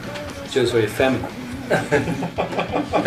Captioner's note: laughter